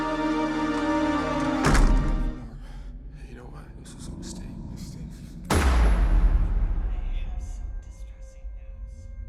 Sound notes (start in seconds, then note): 1.5 headphones thud; 5.5 gunshot